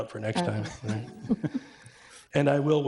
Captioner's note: audience chuckles